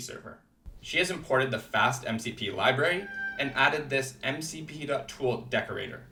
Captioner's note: meow